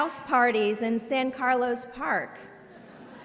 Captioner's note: laughter